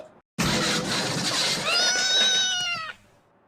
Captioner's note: crashing; scream